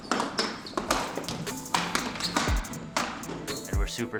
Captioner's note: hockey pucks slamming